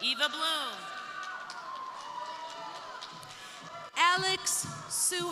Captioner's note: crowd cheering; crowd applauding